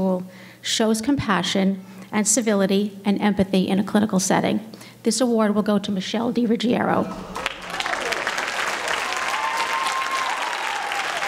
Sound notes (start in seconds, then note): 7.2 applause